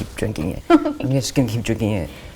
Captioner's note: laughs